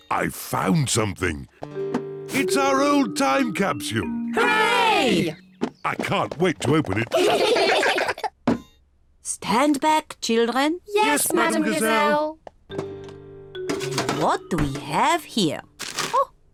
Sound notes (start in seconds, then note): 6.9 all giggle